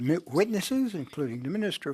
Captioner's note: speaking French